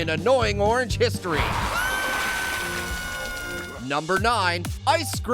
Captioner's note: Orange screaming